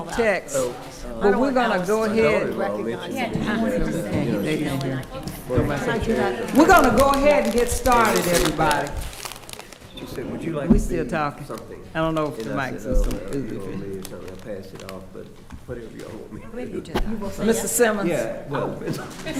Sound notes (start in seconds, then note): 13.6 stammers; 14.2 talking quietly